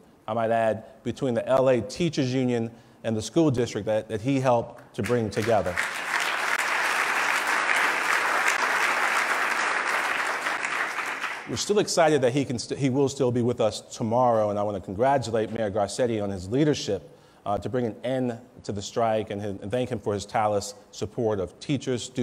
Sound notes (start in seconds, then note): 5.0 loud clapping